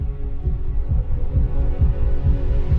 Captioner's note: heartbeat